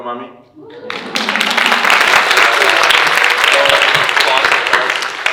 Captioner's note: audience cheering and applauding